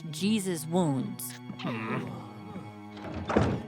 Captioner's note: caterpillar noises; door closing